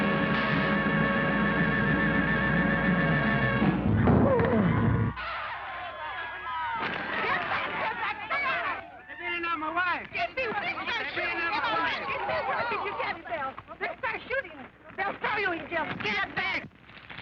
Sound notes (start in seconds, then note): 3.8 thud; 4.2 screaming